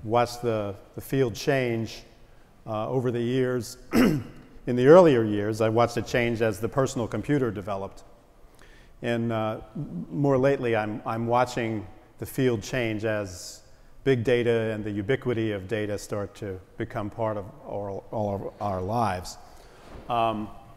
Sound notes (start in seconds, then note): 3.9 cough